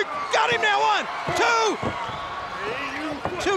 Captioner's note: countdown thudding